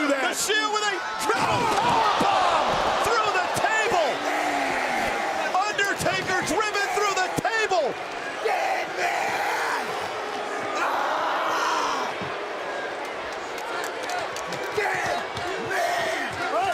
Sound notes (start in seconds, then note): 8.8 Seth screaming; 8.8 crowd booing; 14.7 crowd chanting